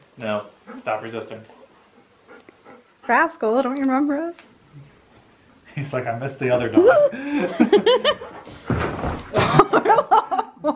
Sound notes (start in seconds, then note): 6.8 laughing